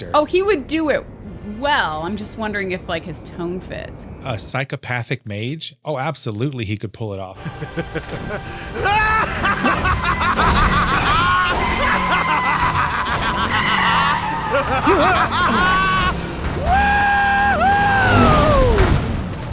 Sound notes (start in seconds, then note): 7.4 meniacal laughter